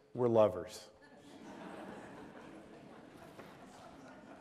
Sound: laughter

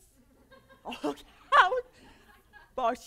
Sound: laughter

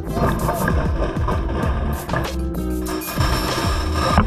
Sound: splashing

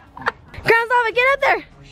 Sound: everyone laughs

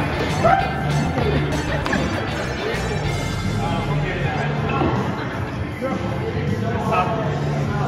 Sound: chuckles

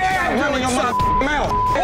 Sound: beep

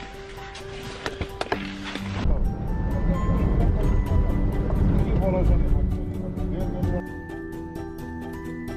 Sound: car sound

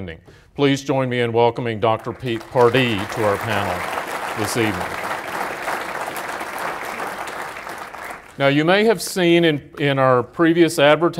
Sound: applause

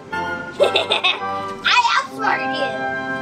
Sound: laughs

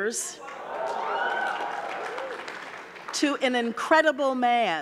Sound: audience cheering

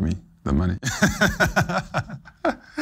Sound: laughs

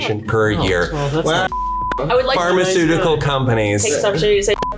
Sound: beeps

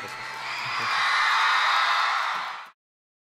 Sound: applause

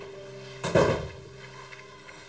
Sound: door closes

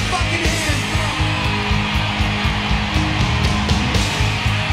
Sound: audience cheering

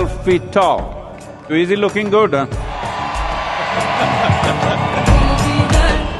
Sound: cheering/Applause; laughs

